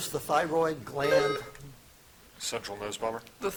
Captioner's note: buzzer chiming